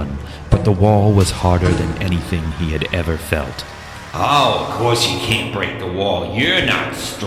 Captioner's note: echoing